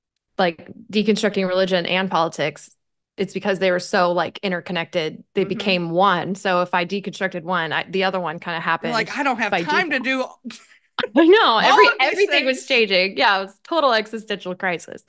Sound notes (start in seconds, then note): 10.6 laughs